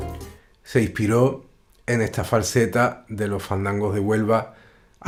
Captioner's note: musician speaking in Spanish